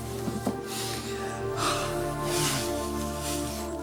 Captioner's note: laughs; sighs